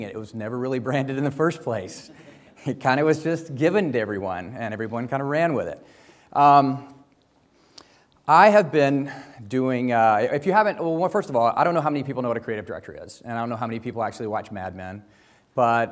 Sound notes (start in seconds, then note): 2.0 audience laughs